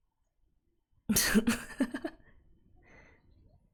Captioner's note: laughs